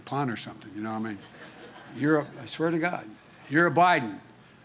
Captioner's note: laughter